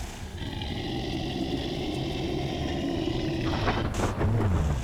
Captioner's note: creature growling softly; lightning cracking; thunder rumbling